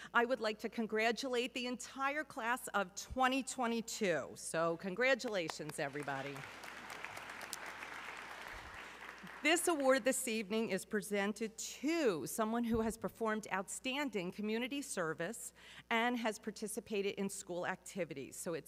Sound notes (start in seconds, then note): 5.3 audience clapping